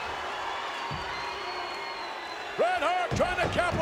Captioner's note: crowd boos